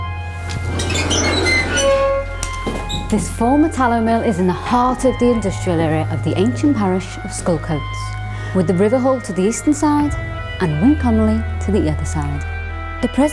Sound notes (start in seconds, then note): 0.3 door screeches